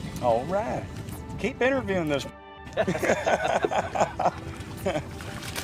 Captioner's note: men laughing